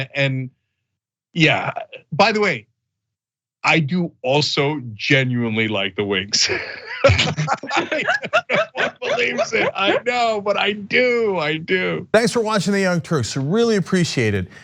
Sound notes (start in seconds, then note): 6.3 laugh